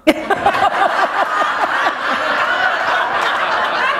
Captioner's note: laughter